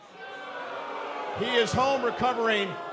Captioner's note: cheers & boos